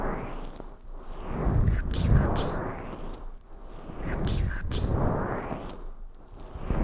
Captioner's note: gentle wiping